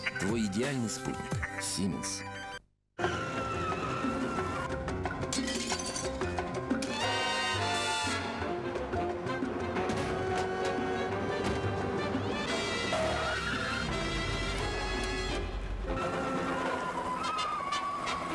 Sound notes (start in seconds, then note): 3.1 whistle; 5.0 disturbing music; 5.3 sound of glass breaking; 15.4 motor noise; 15.4 nice music